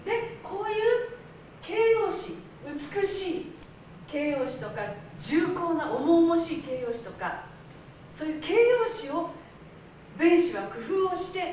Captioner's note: speaking Japanes